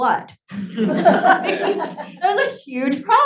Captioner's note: audience laughs